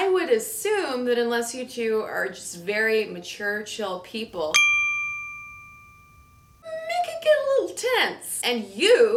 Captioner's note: bell chimes